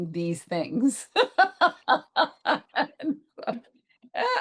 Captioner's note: laughs